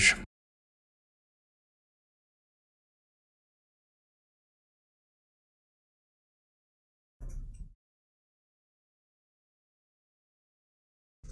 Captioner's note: silence